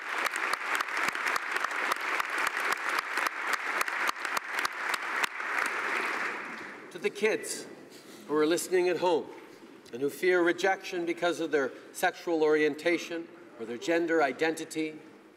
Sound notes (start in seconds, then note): 0.0 applause; 4.3 applause